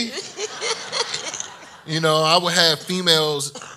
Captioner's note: laughs